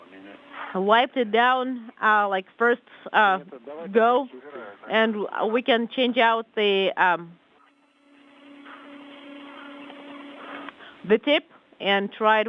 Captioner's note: static